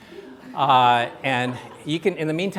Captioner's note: laughter